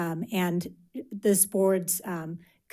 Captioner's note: none